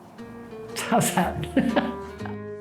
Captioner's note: laughs